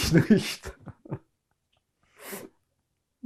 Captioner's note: laughing